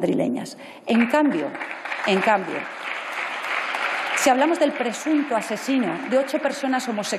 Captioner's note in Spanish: Aplausos